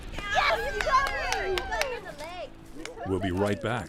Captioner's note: cheering